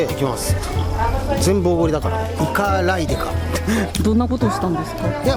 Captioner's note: laughs